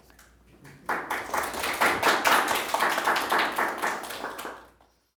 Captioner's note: students applauding